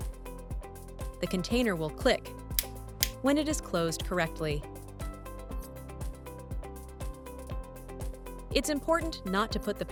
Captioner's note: click sound